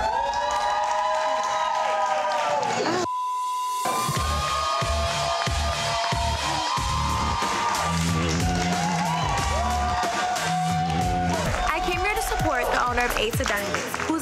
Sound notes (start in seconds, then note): 0.0 crowd cheering and clapping; 3.0 beep; 5.0 crowd cheering